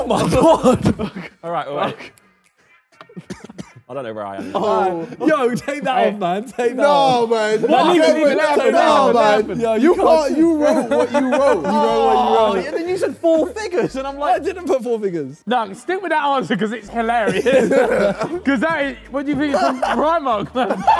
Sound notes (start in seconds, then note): 1.6 laughs; 6.7 Sidemen yell; 12.4 sighs